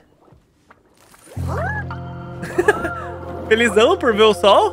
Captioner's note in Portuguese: risos